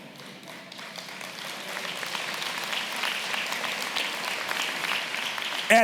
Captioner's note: audience clapping